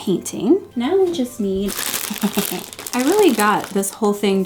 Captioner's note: laughing